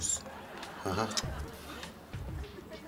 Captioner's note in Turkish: Gülme efekti